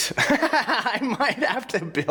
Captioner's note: laughing